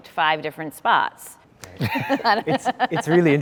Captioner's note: laughter